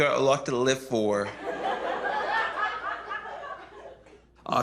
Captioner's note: laughter